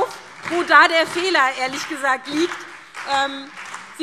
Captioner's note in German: Beifall SPD und Freie Demokraten